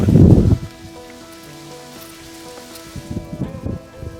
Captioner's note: wind whooshing